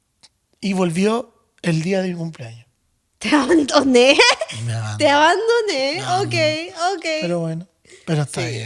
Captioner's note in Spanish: risas